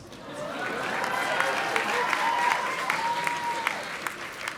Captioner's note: audience applauding